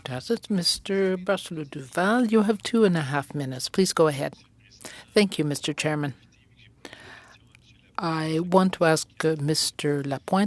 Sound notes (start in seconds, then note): 4.0 speaking French